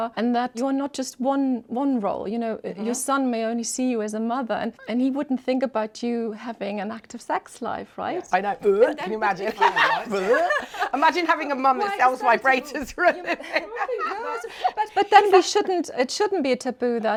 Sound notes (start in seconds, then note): 8.7 imitates retching; 10.2 laughs; 10.6 laughing; 14.5 laughs